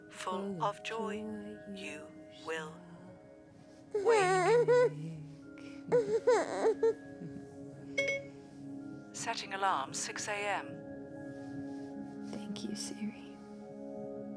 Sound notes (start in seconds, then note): 5.5 Jack cooing